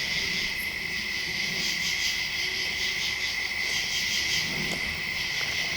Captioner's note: insects chirping